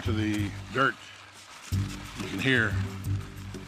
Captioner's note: light crunching